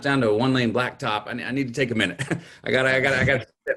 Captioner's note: chuckles